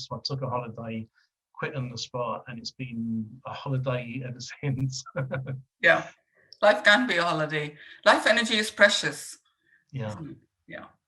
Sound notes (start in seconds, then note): 4.9 laughing